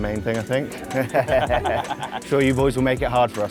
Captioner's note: crowd laughs